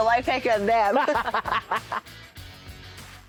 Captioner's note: laughs